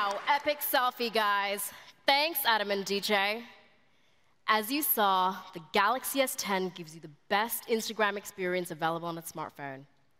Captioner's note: applause